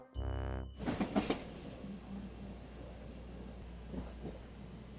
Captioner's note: train clacking